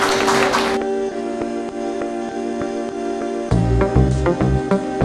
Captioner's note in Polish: Aplauz